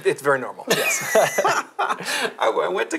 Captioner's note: laughing